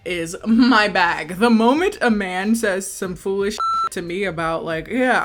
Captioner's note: beep